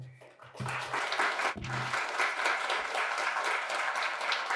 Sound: audience clapping

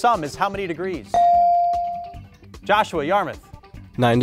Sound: buzzer pings

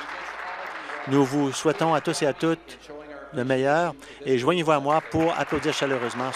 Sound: applause

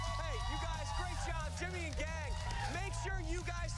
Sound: cheers and applause

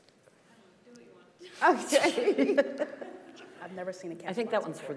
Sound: group laughing

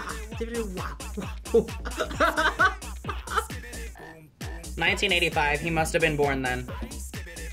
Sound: laughs

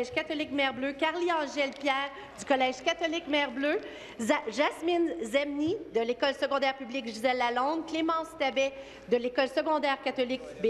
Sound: speaking in French

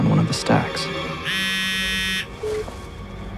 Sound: phone vibrates

